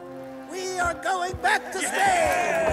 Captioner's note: crew cheers